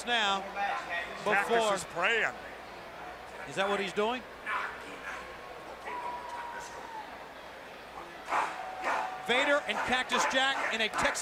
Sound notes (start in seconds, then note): 5.2 crowd chatter